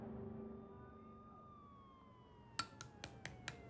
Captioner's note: siren wailing; knife tapping